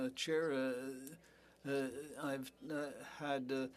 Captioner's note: speaking French